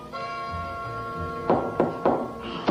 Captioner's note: knock on door